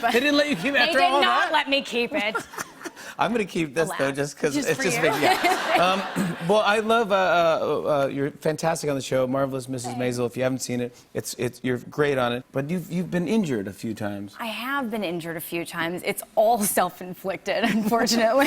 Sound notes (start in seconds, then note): 2.2 laughs; 5.0 laughter